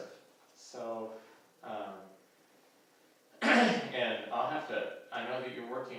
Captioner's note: throat Clearing